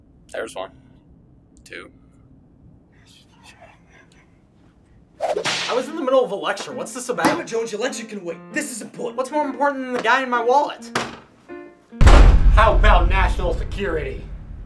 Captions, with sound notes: There's one... Two... *Whip sound effect* I was in the middle of a lecture, whats this about?? Damnit Jones, your lecture can wait! This is important. What's more important than the guy in my wallet? *door slams* How about national security!?